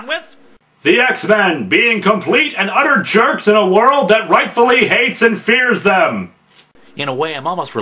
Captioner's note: dramatically